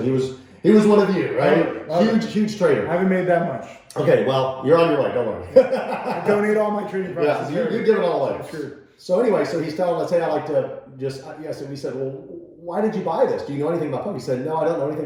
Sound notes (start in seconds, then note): 5.4 laughing